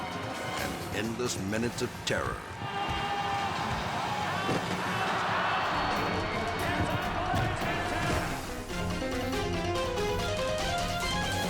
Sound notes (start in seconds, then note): 4.1 audience roars; 4.1 thuds; 8.3 dramatic music